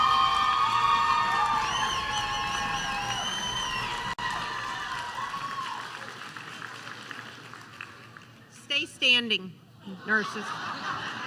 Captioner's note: applause